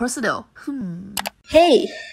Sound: click

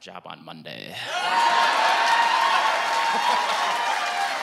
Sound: cheering and applause; laughing

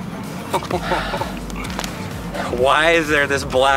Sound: laughing

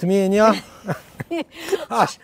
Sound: both chuckle

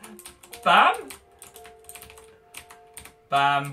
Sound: frantic keyboard clicking

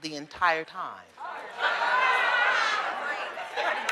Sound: audience chatter

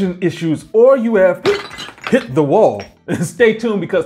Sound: sound of pot breaking

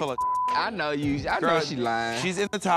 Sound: beep

